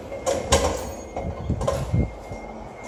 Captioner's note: ding